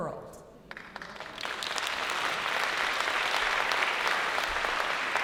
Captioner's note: applause